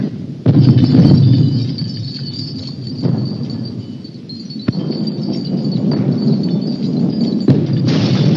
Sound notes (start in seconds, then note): 4.6 louder explosion